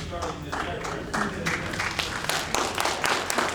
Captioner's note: applause